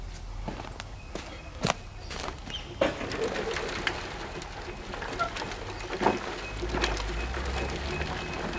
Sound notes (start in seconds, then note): 2.2 sifter rattles